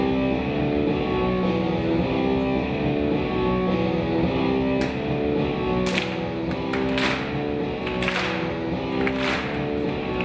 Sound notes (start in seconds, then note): 0.2 intense rock music; 5.6 clapping in unison